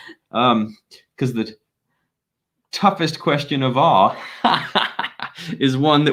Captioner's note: laughing